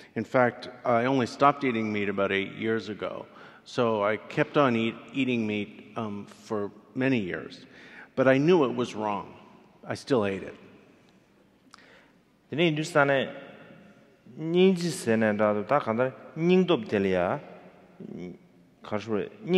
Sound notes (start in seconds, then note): 12.7 speaking in foreign language